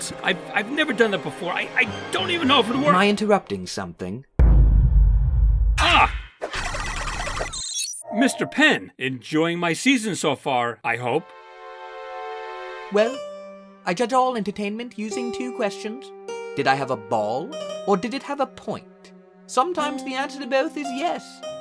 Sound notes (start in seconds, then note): 4.4 dramatic boom; 8.0 loading noise